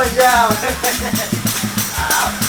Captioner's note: laughs